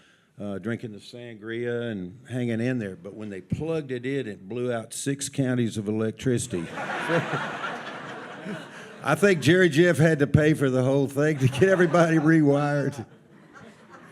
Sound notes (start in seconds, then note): 6.5 audience laughs